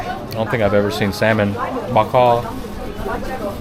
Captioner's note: speaking Vietnamese